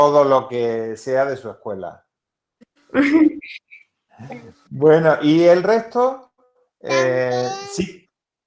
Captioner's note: laughs